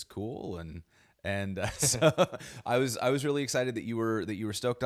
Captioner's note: chuckles